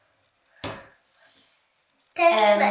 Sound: banging

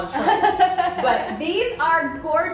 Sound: laughs

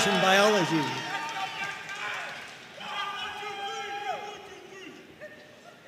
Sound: audience cheering and applauding

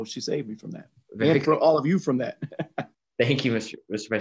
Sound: laughs

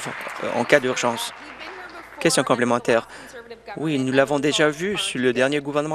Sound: applause

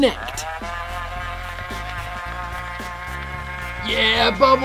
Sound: whirring

